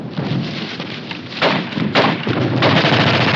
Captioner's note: gunfire